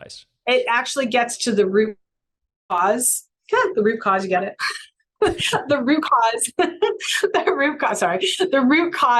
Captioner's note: laughs